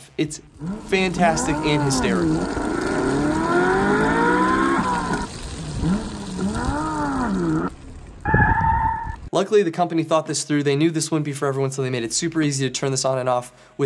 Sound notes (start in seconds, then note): 2.5 engine accelerating